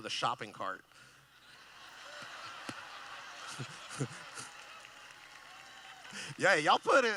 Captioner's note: laughing